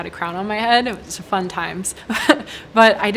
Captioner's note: chuckles